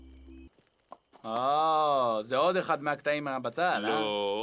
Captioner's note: hebrew